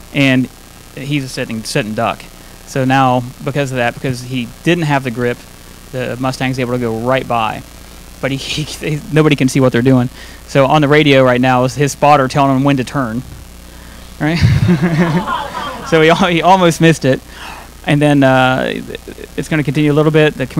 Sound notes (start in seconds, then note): 14.3 audience laughing; 14.4 laughing